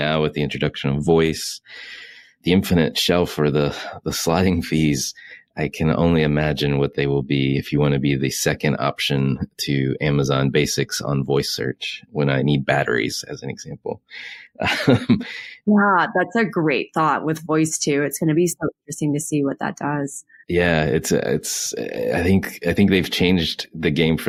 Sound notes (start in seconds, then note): 14.1 laughs